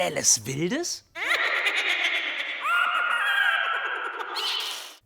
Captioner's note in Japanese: バックグラウンドでのトロールのような笑い